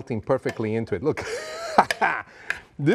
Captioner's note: laughs